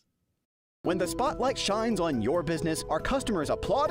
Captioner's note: voiceover